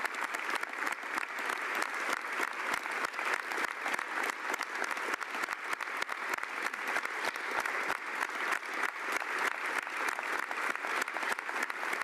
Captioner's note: applause